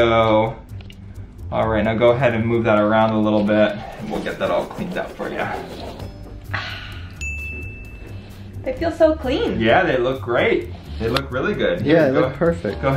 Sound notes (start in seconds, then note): 6.4 sighs; 7.1 chimes tinkling